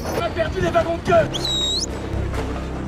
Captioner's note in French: siffle